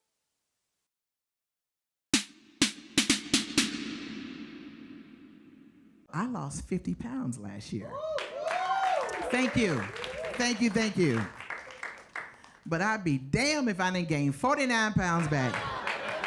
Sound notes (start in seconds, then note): 7.9 audience cheers and applauds; 15.2 audience applauds